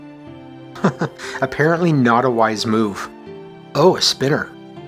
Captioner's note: chuckles